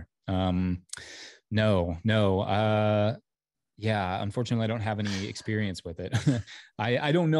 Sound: laugh

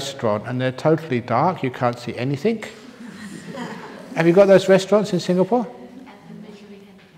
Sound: laughter

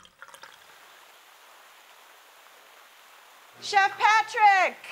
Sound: trickling waterfall

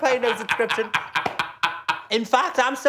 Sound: laughing

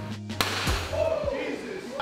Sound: gun shot blasts

